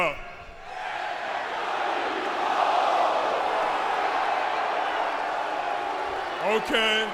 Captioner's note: crowd cheering